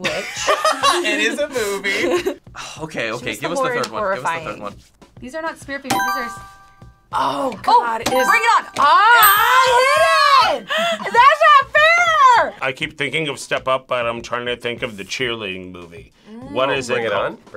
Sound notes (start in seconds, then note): 0.4 laughs; 2.2 sighs; 6.1 buzzer rings